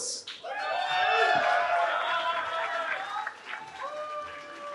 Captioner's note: cheering